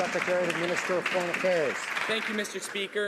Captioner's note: some Applause